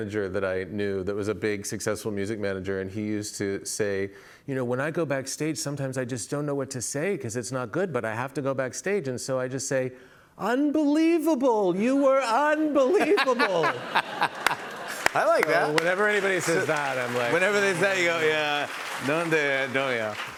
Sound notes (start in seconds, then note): 12.8 laughter